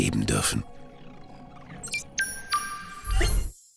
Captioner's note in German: Futuristische Geräusche